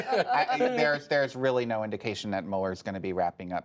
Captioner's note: laughter